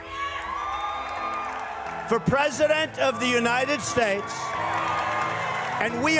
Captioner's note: audience cheering